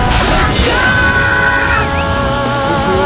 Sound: KO Scream

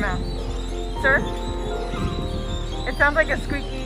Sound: background animal noises; laughs

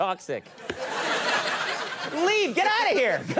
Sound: laughter

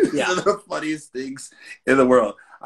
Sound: laughs

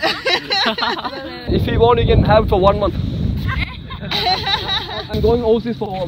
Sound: laugh; laugh

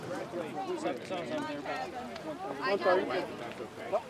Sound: congregation chatters

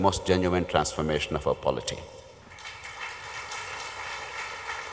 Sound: applause

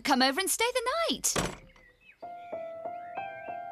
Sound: door Slams

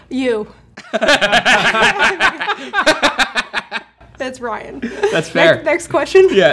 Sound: group laughing

